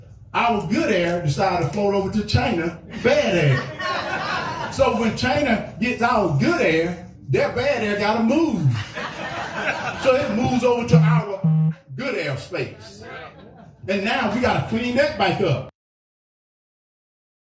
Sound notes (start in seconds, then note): 3.5 laugh; 9.6 laugh